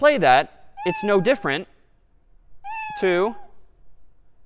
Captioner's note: meow; meow